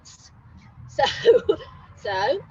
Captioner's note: laughs